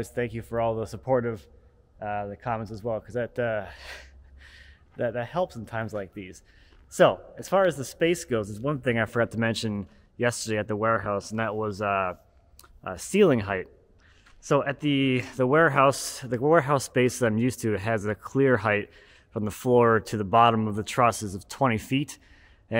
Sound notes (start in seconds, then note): none